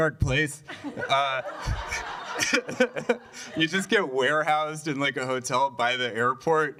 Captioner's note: laughter